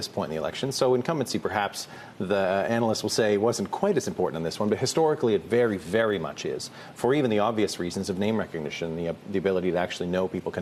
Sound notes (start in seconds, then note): none